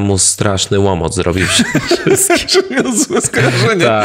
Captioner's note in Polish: śmiech